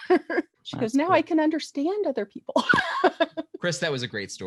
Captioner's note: laugh; laugh